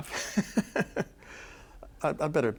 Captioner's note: chuckling